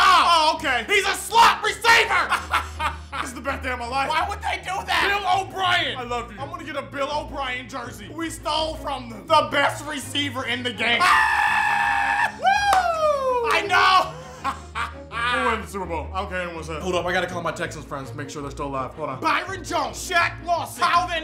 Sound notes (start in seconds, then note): 2.4 cackling; 11.0 screams; 14.6 laughs